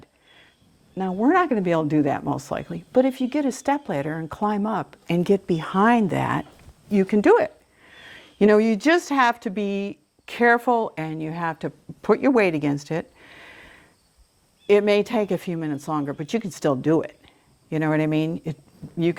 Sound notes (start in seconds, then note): none